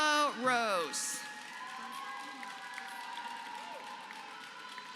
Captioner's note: applause